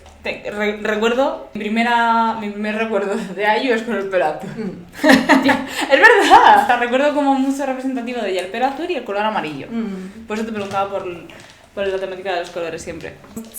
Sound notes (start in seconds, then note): 4.3 laughs